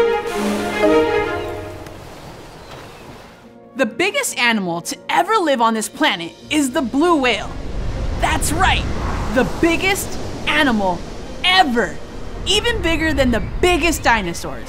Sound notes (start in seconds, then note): 7.2 blow hole splash